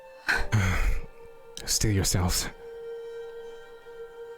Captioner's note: sigh